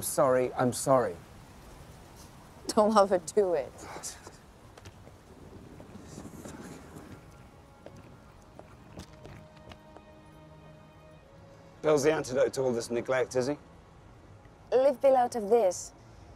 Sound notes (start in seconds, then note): 4.3 cursing under his breath